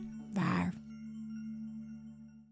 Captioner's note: monster growling